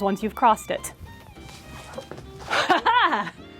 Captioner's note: pie swooshing past!